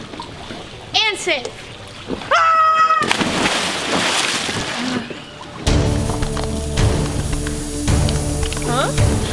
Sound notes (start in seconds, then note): 2.1 scream and water splashing; 5.6 dramatic music